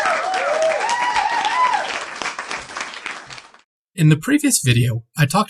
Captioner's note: crowd cheers